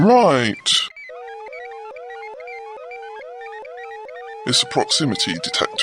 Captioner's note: alarm sounds